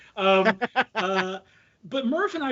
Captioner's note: laughing